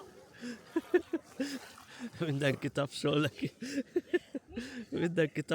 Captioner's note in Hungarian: nevetés